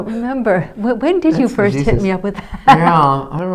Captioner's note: laughing